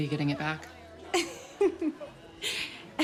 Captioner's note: laughs